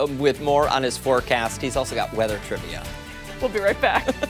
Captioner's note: laughter